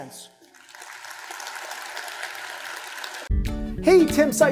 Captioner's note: crowd applauding; upbeat music